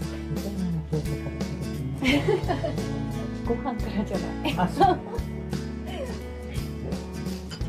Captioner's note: laughs